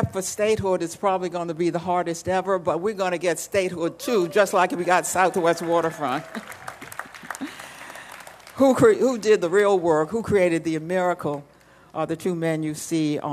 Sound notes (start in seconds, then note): 7.2 applause